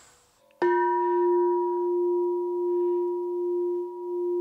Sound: bell dings

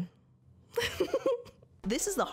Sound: giggling

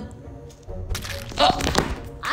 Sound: squelching

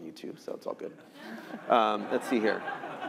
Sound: laughter

